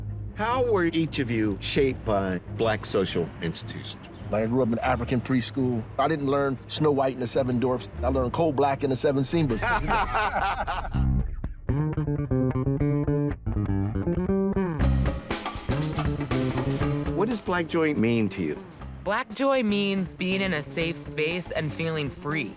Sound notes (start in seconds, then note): 9.4 all laughing; 11.0 jazzy music